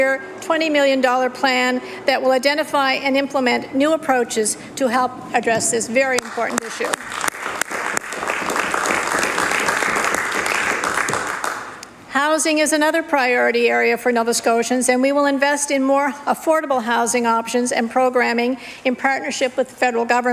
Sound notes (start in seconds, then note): 13.3 applause